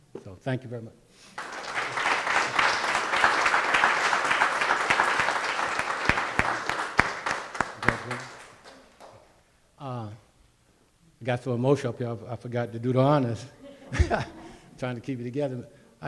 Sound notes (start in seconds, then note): 1.3 audience applauding